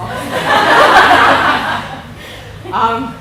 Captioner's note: laughing